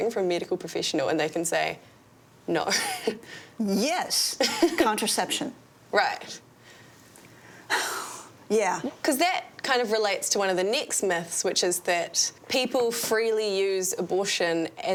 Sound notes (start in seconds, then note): 3.0 laughs; 7.6 sighs